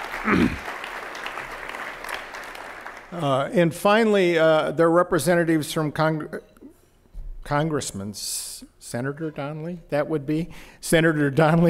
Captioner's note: applause